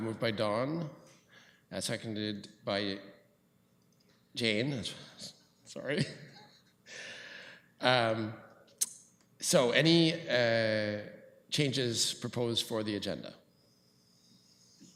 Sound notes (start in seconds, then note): 5.9 chuckles